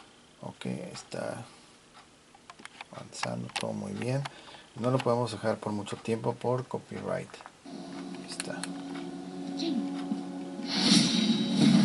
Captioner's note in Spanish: resoplido